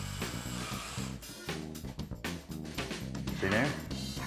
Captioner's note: drilling